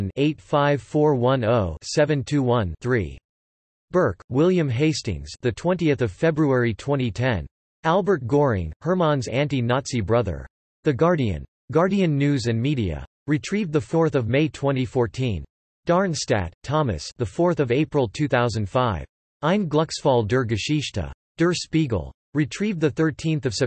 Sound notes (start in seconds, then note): 7.1 in German